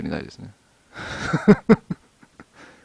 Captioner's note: laughs